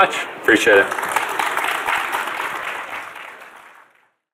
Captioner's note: audience applauding